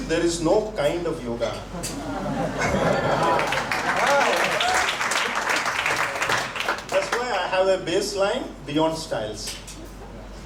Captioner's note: laughter and applause